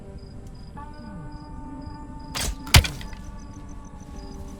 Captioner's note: gun fires